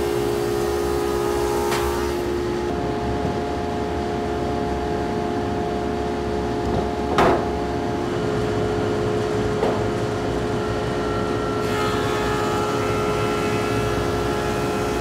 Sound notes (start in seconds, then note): 7.2 wood banging; 11.8 machine whirring